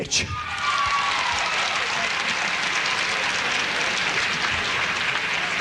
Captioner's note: audience cheering and applauding